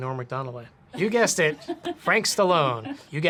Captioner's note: woman laughs